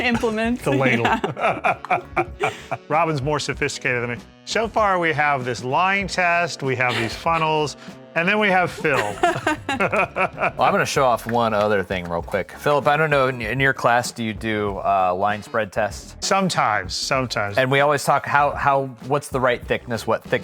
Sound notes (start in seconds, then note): 0.0 laughs; 8.6 laughs